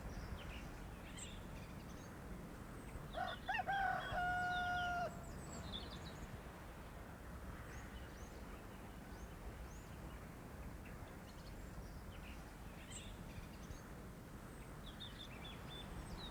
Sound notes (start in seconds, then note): 3.2 cock crows